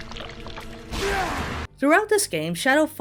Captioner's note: Shadow yells